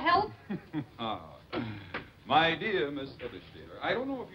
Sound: chuckles

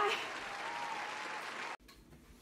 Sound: the crowd goes wild

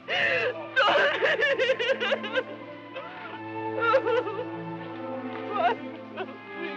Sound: sobbing

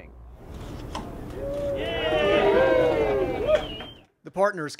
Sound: nat sound of ribbon cutting, cheers

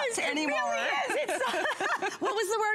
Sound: laughter

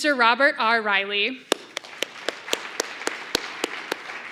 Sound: applause

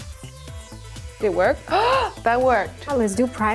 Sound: upbeat electronic music; gasps

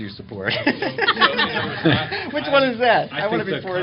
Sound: laughter

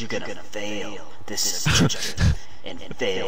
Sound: chuckles over dialogue

